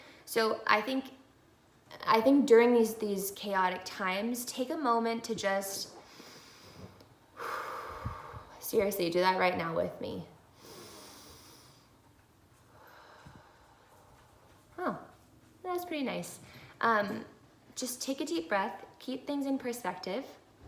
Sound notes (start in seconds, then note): 7.3 exhaling; 10.5 deep breathing